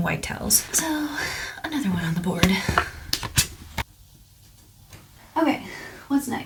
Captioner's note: rustling of plastic